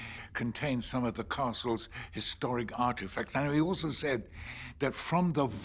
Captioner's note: none